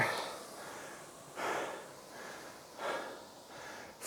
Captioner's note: breathing heavily